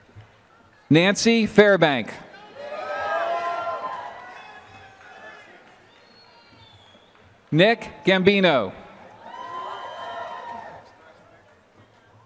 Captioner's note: applause